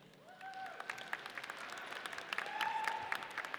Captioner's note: audience cheers